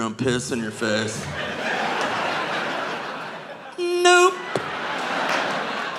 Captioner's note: audience laughing